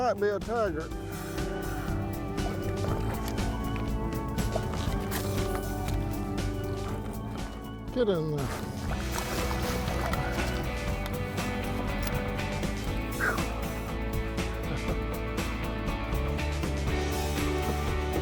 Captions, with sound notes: He might be a tiger. (soft music) (water splashes) Get in there. (soft music) (water splashes)